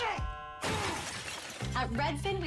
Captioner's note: crash